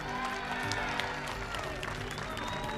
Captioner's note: clapping